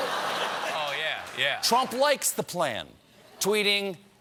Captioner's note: laughter